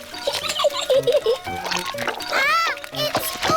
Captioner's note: giggles